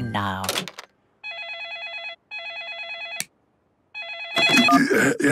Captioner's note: phone ringing